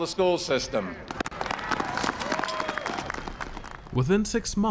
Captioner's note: applause and cheers